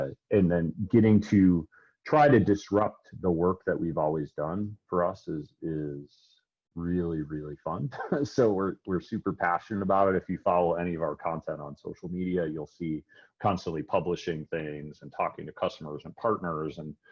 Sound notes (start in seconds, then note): 7.8 laughs